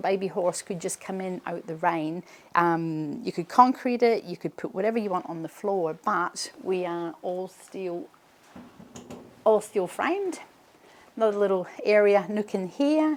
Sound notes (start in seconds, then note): 8.6 tapping